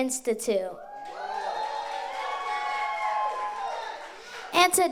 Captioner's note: audience applauds